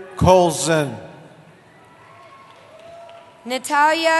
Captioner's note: cheering